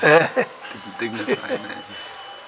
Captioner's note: laughter